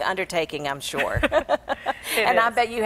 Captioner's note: both laugh